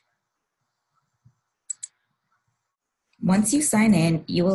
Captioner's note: mouse click